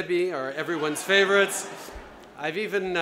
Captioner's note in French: Rires